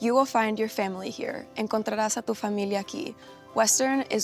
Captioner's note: speaking in Spanish